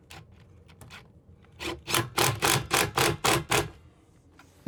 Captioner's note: drill drilling